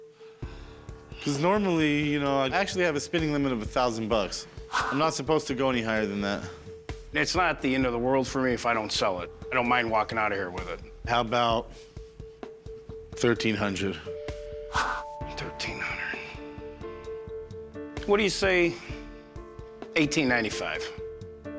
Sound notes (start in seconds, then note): 15.1 quietly